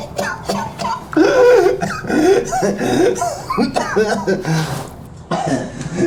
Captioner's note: Miles coughs; Miles pants and wheezes